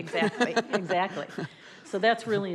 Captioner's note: laughs